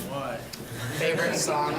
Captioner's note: laughs